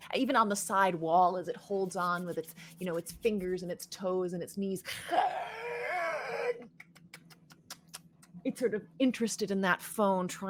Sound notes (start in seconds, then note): 5.0 screeches and clicks